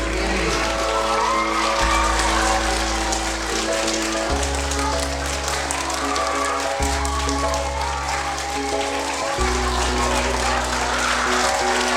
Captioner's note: applause and cheers